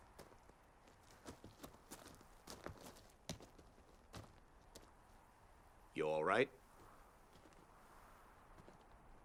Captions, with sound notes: (footsteps tapping) - You all right?